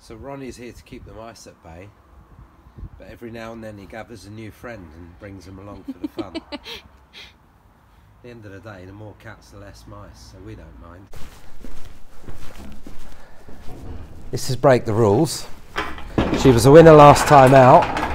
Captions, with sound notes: - So Ronnie's here to keep the mice at bay. But every now and then, he gathers a new friend and brings him along for the fun. (Assistant giggles) At the end of the day, the more cats the less mice, so we don't mind. (heavy foot steps) This is Break the Rules. (metal stable door rattles) She was a winner last time out.